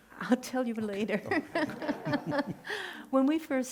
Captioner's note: laughing